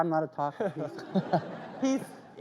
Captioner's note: audience laughs